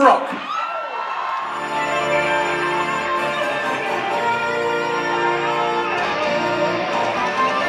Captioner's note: cheers